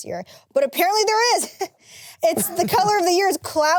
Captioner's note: laughs